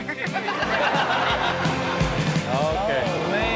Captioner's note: audience laughs